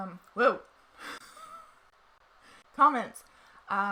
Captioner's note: laughs